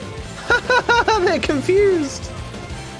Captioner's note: laughs